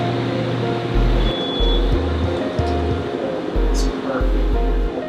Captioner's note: machine beeps